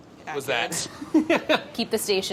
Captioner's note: laughs